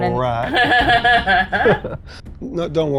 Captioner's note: chuckling